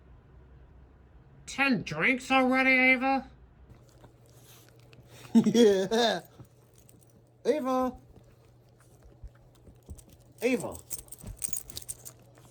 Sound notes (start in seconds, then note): 5.1 chuckles